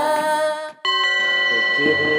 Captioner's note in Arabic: تشبث الأجراس